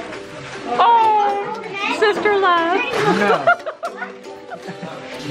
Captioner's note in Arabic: يضحك